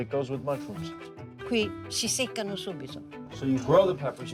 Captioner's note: speaking Italian